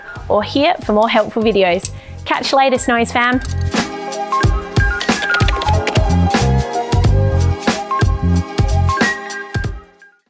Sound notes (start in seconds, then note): 3.3 upbeat music; 5.0 keyboard clicking